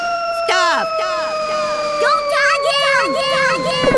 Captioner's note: echoes; sound of lightning crashing